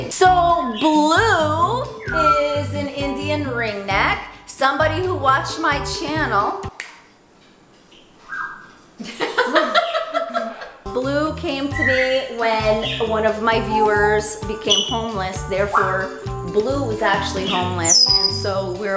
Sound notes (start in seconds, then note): 6.7 snaps; 9.0 laughs